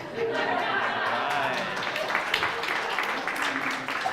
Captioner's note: audience laughing